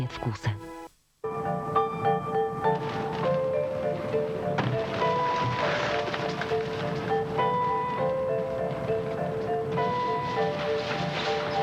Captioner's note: wings flapping; disturbing music